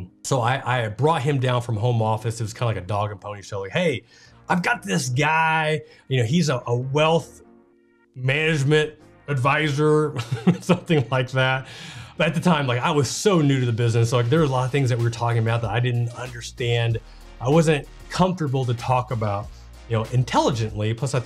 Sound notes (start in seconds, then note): 10.2 laughs